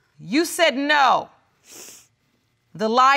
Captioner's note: sniffles